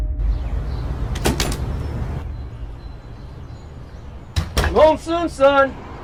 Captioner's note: birds chirping